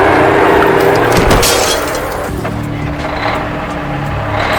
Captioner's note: glass shattering